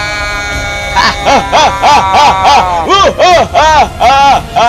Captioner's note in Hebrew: צחוק מרושע